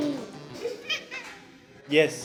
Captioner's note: meows